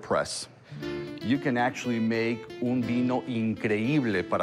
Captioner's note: speaking italian